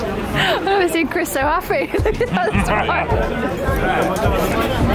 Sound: laughing

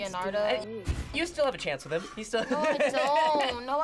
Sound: laughs

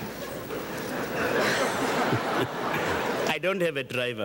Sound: audience chuckles

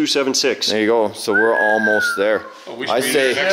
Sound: man whistles

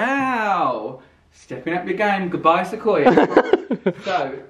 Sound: laughs

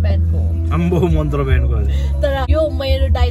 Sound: mocking

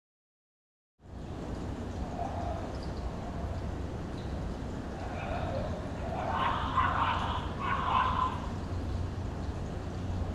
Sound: weird dog bark

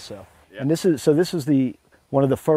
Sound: voiceover

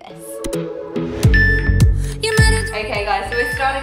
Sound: timer beeping

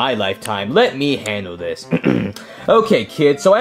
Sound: clears throat

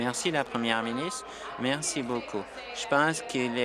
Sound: applause

